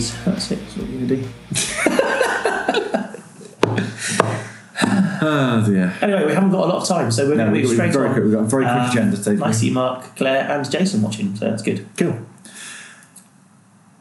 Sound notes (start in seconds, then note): 1.4 laughing